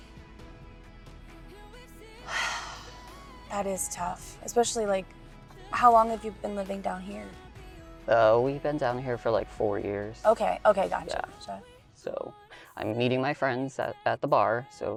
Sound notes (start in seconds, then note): 2.2 Georgia sighs